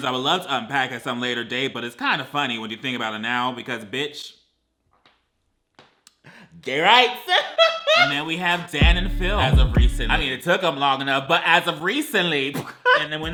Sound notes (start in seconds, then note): 6.8 laughs; 12.5 laughs